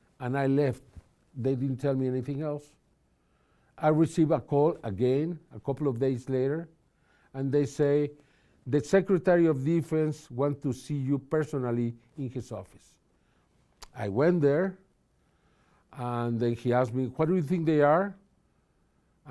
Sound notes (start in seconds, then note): none